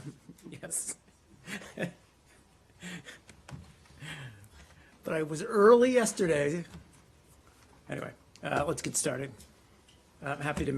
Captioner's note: laughter